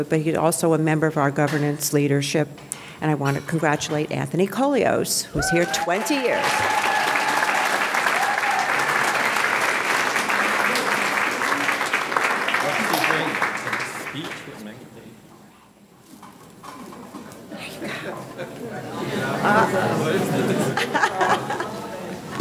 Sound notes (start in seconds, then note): 6.6 audience cheering; 7.9 audience clapping; 17.8 audience laughing